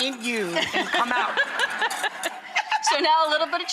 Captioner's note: laughter